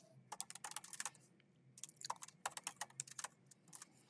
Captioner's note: keyboard clacking